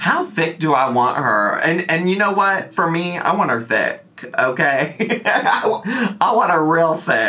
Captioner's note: laughs